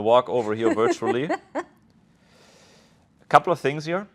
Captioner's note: laughs